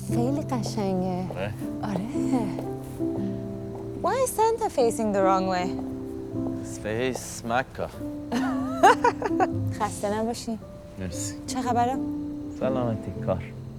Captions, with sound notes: (speaking foreign language) - Why is Santa facing the wrong way? - Face Mecca. (woman laughing) (speaking foreign language)